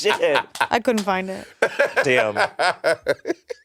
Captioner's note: Monét clapping; Monét laughing